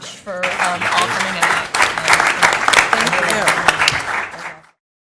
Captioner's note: applause